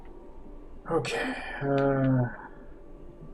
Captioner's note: sighing